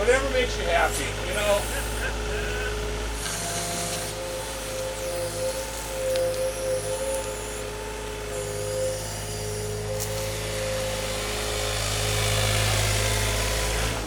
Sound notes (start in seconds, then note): 1.5 laughing